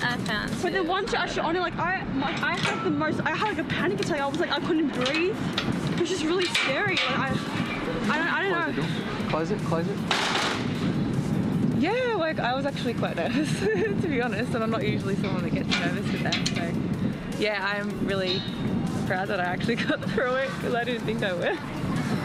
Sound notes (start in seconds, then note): 13.3 laughs